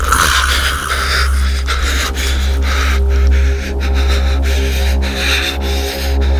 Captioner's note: Henrietta croaking; dark music